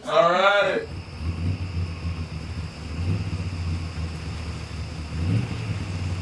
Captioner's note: engine rumbling